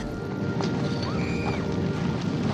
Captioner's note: silly screaming